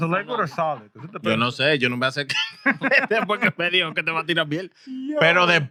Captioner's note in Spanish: Hablando en idioma extranjero